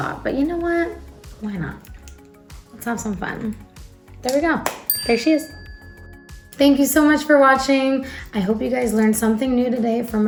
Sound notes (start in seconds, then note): 4.8 bell ringing